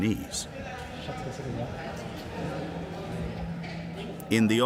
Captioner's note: people chattering